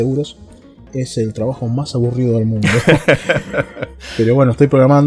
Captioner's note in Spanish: risas